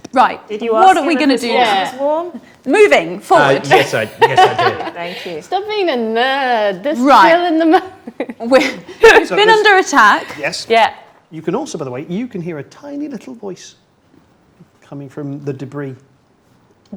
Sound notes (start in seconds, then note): 8.2 laughs